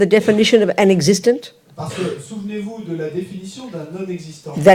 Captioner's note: French